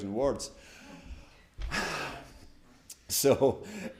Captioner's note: attendees gasp